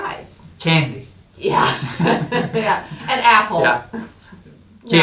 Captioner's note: laughing